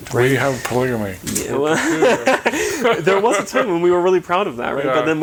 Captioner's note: chuckling